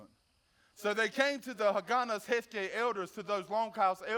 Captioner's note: speaks foreign language